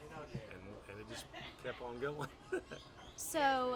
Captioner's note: laughs